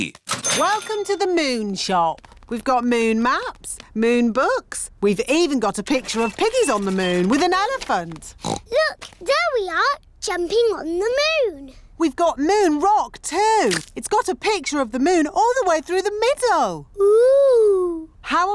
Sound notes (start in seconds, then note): 8.4 oinks